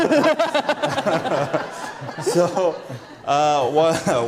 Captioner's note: laughter